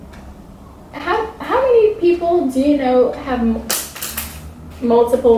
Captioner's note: pen drops